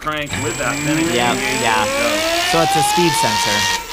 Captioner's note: motor whirring